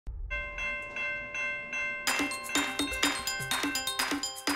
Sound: bell clanging

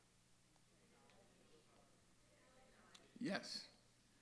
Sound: audience chattering and cross talking

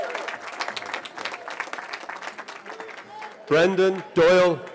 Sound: cheering

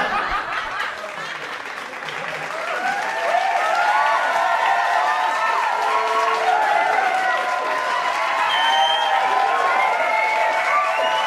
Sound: laughter; cheering and applauding

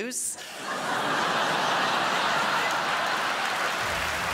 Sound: crowd laughs

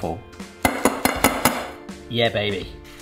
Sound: pan knocks

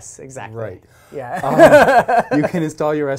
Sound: both laugh

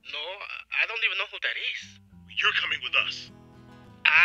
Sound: voiceover

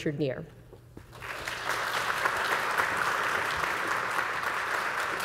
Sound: audience applauding

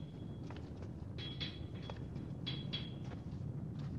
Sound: banging

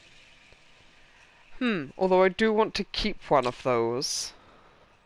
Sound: none

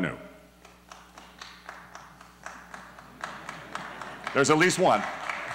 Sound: single applause

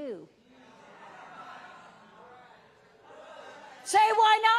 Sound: audience murmuring

